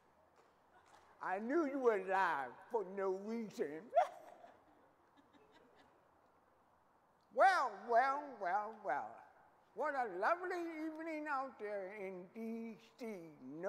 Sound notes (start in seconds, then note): 3.9 laughing